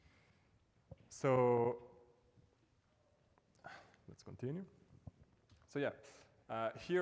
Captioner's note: sighs